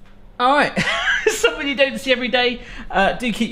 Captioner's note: laughing